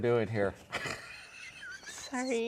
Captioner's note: laughing; laughs